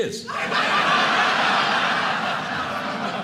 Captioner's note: audience laughing